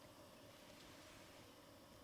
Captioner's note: breathe